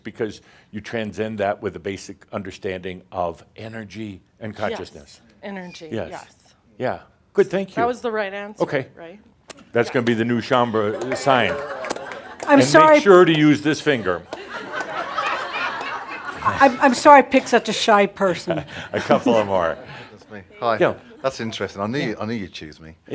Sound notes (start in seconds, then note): 11.5 some laughter